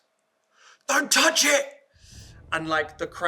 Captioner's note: urgent Voice